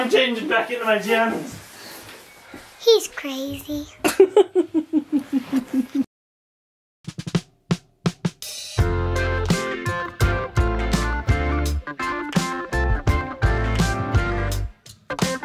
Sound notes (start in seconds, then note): 4.0 laughing; 8.8 upbeat music